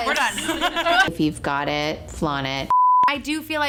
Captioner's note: beep